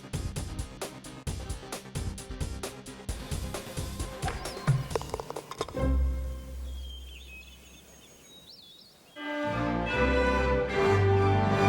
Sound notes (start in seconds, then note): 3.8 thudding; 4.9 clattering; 6.0 birds chirping; 9.2 majestic music